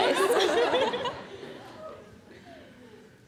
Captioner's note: audience laughter